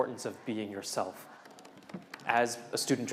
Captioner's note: keyboard clanking